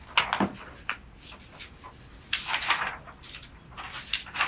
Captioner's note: moving papers around